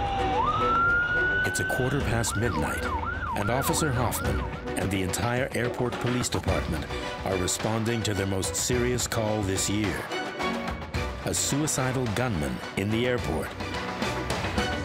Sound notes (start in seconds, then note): 1.7 suspenseful orchestral music; 3.2 siren wailing